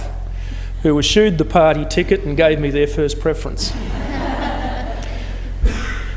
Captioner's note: laughter